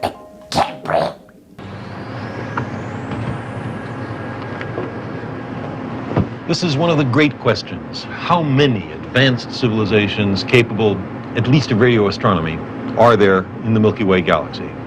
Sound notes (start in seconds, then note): 0.4 gag